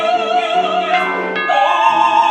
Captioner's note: doorbell